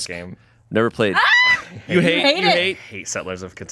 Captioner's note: screams